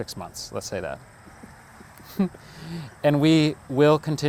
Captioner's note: laughing